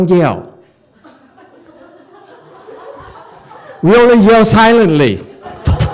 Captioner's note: points at head. Audience laughs, laughs